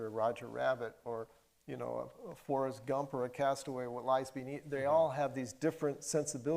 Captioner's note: none